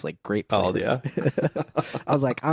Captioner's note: laughs